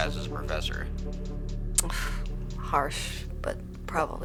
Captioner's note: scoffs